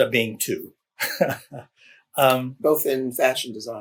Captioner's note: laughs